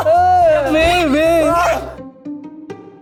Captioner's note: terrified